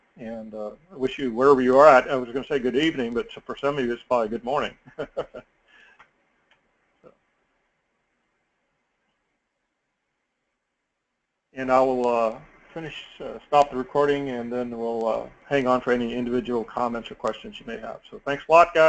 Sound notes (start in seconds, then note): 4.7 laugh